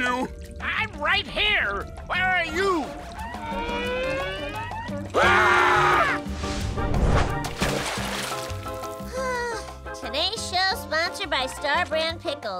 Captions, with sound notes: I'm right here. Where are you? [screaming] [sighing] Today's show sponsored by Star Brand Pickles.